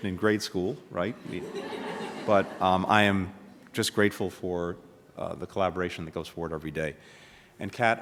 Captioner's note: laughter